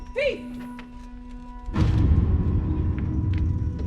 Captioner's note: woman yells